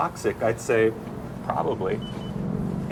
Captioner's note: ominous music; cash register beeping